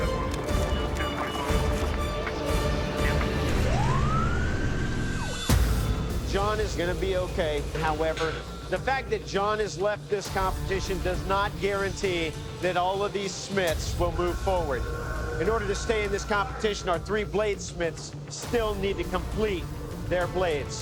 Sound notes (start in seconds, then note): 3.3 siren wailing